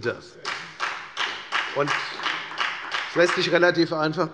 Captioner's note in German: Beifall bei der FDP